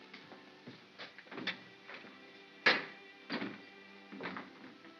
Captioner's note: door opens & closes